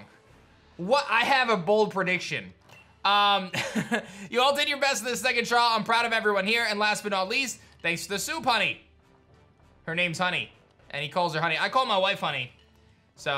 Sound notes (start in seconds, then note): 3.5 laughs